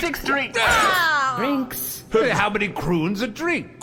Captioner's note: everyone groans